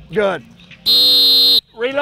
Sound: blows whistle

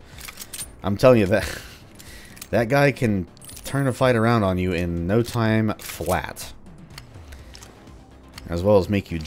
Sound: chuckles

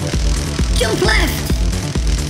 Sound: electricity crackling

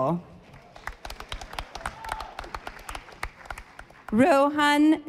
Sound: audience applauding

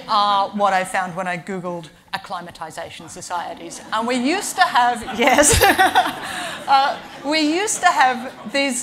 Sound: laughs

